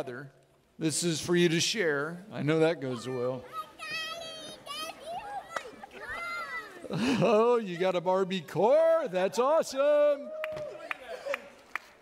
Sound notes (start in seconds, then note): 10.4 audience clapping